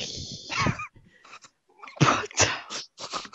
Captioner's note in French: rires